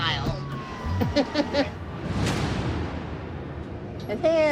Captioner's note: laughs